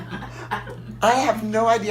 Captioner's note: audience laughter